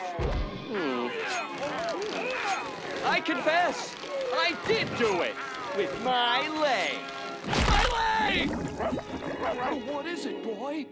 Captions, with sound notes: [groaning] I confess. I did do it, with my leg. My leg! [barking] What is it, boy?